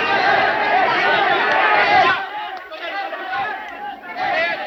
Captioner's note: people clamoring